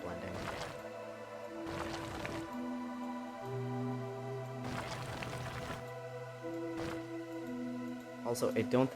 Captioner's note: intermittent gravel sounds